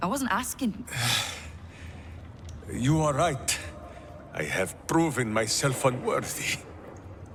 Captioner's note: sighs